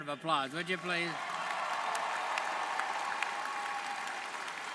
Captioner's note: audience cheering